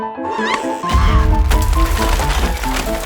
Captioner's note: explosion